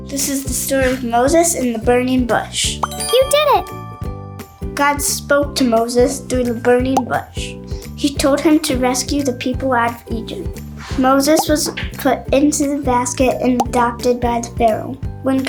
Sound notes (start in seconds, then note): 2.8 chimes ring